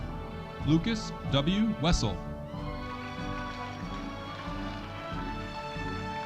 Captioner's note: audience cheering